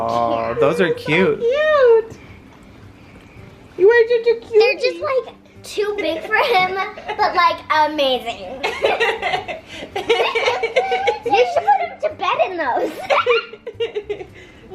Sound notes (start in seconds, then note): 8.6 laughing